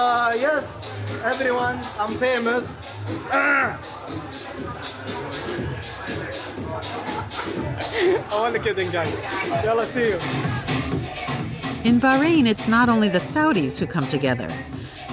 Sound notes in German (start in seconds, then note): 3.2 räuspert sich